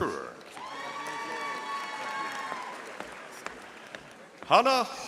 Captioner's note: audience applauding